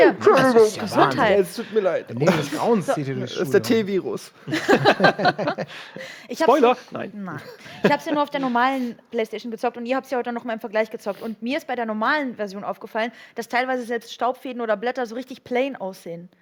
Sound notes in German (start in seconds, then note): 4.5 Lachen